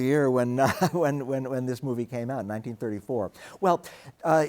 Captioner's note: chuckles